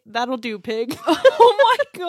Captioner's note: laughs